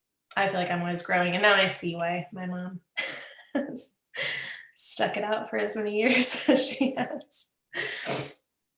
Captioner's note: laughs